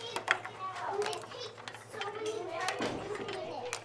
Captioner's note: chatter